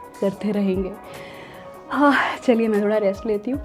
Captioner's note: relief sigh